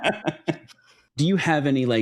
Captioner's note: both laughing